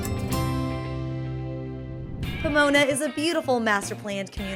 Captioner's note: whoosh